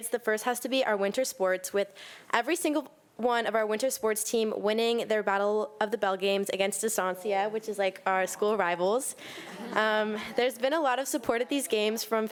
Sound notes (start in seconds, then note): 9.3 audience laughing